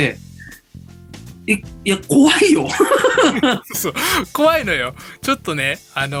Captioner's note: laughs